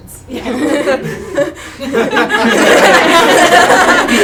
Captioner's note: attendees laugh